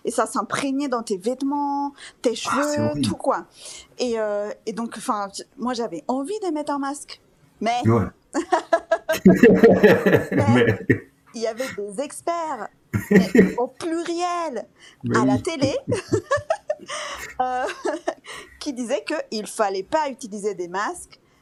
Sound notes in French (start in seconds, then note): 15.1 rires